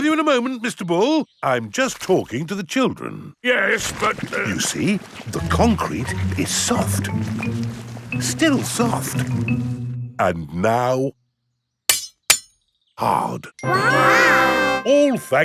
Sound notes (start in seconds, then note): 4.5 stutters; 11.9 shovel clanks